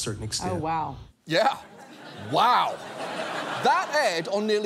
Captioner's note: laughter